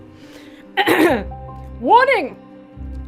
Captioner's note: clears throat